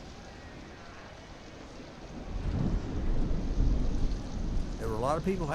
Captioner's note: rain pattering, thunder rumbling